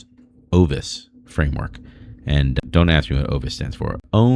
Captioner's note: uh